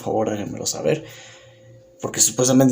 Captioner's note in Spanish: Silencio